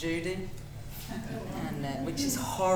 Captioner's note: audience laughing